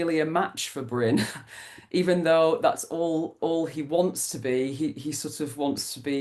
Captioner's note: laughs